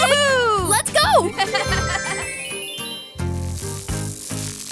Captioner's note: laughs; transition tones